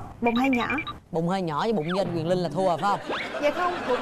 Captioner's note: laughter